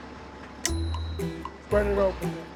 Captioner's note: snap